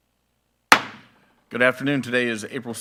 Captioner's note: gavel thuds